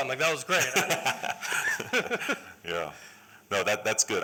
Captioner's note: laughter